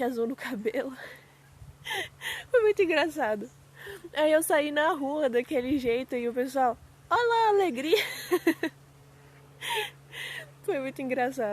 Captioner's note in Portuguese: suspirando